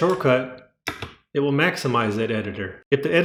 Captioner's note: The sweet sound of MX Cherry Blues being pressed